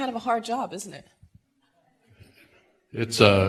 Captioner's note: laughter